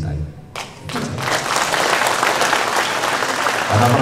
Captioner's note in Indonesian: tepuk tangan